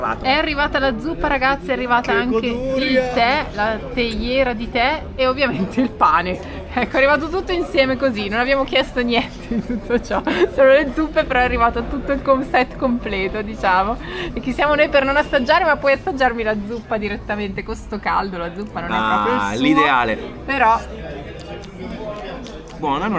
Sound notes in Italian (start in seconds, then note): 9.4 risate